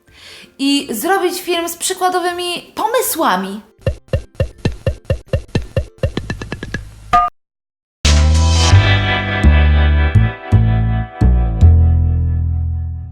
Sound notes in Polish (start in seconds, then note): 3.7 puk puk puk puk; 8.0 muzyka z intra